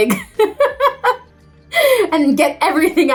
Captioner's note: Lea laughs